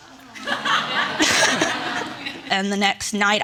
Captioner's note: audience laughing